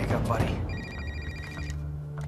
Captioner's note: ringing of cell phone